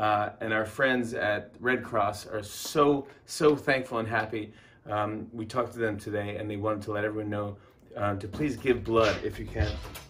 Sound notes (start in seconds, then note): none